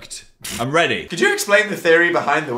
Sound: blows raspberry

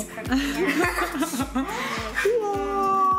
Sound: laughing

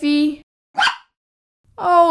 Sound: bark!

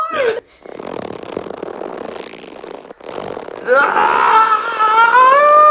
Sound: rubber stretching

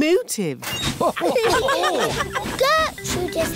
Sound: laughter

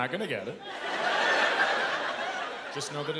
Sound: laughter

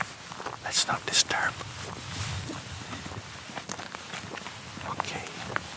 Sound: whispers

